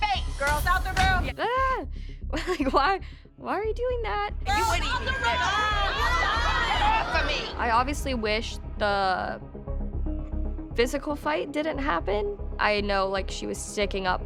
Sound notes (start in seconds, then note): 1.5 chuckles; 4.7 overlapping chatter